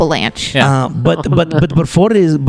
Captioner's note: laughs